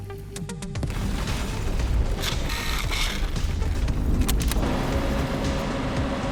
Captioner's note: dramatic music; car engine roaring